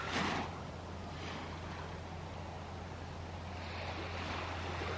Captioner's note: waves lapping gently